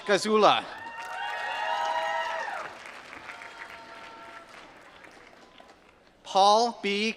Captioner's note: applause